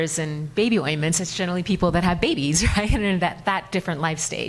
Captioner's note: chuckles